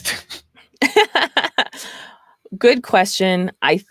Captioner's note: laughs